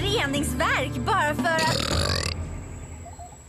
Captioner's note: burps